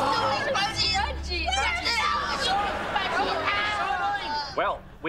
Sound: yelling

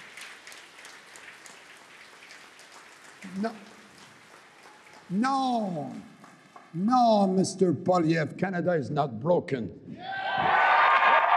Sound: applause

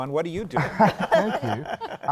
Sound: laughter

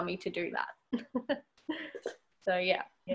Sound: laughs

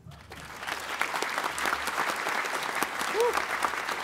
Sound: applause

